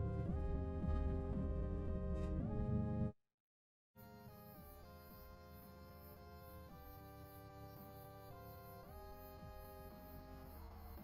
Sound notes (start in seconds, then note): 5.0 insects chirping